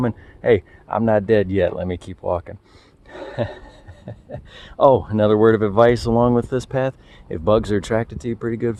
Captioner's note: laugh